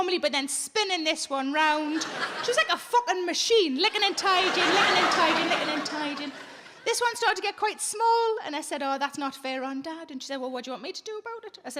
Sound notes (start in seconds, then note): 3.9 audience laughing